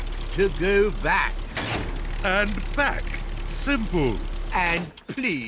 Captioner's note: lever clunks